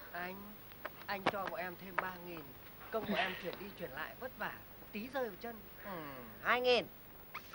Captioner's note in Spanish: hombres hablando